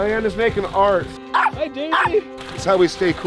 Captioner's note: dog barking